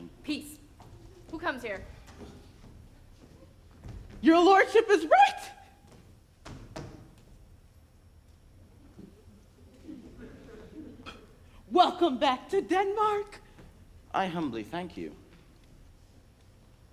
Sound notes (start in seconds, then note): 9.4 audience laughs